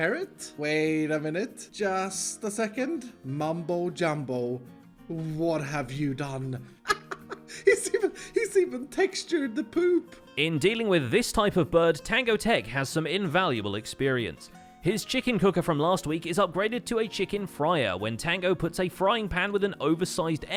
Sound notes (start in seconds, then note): 6.8 laughing